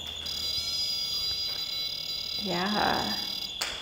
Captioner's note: whining